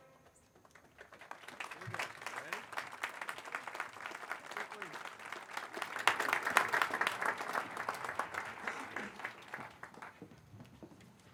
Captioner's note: applause